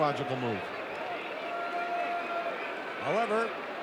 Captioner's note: audience cheering